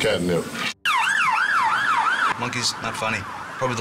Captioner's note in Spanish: sirenas de ambulancias lamentos